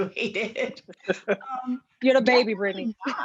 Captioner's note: all laughing